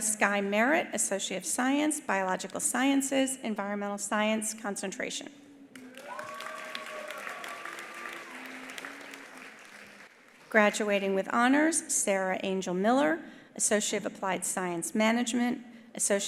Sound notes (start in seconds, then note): 5.7 attendees cheering; 5.7 attendees applauding